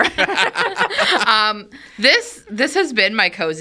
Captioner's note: all laughing